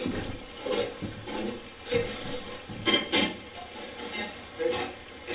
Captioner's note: static playback transmitting